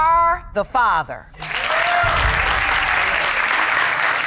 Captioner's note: audience cheering